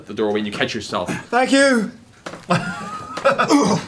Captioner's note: grunting